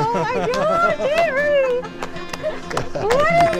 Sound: all applauding; laughing

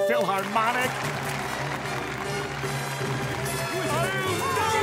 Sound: applauding

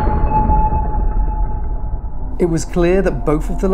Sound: eerie beeping

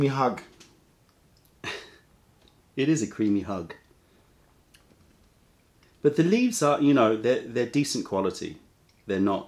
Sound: laughter

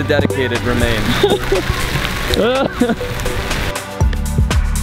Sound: both laughing

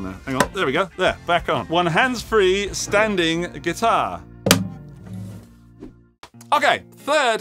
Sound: thud

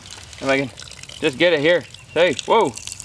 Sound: water streaming

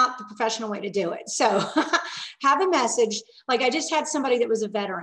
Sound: laughing

